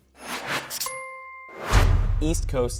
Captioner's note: dinging; dramatic drum beat